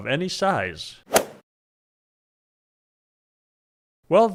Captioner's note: golf swing sound effect